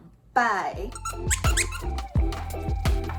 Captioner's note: toy squeaking